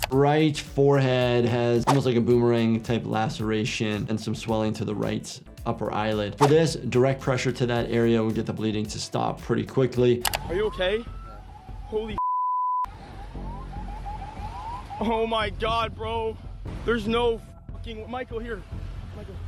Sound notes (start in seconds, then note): 12.2 beep